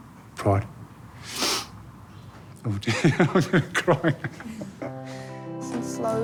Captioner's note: sniffles